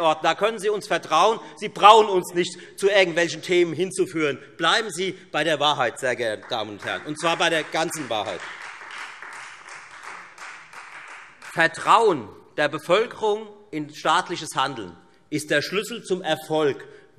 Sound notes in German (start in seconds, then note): 8.5 Beifall Freie Demokraten